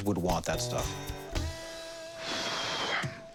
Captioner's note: sighs